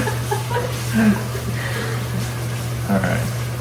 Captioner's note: laughter